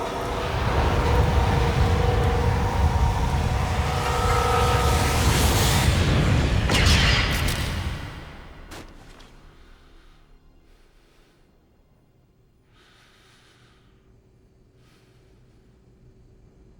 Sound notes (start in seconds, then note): 12.4 Engle Breathing</i> <i> Deeply